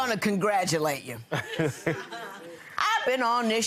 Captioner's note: laughing